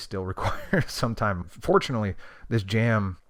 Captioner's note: laughs